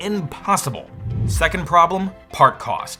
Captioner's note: air whooshing